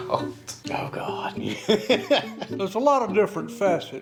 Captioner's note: laughs